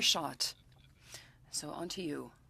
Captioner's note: speaking French